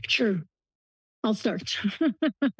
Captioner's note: laughs